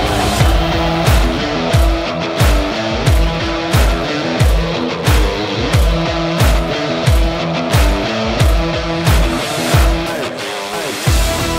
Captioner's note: crowd chanting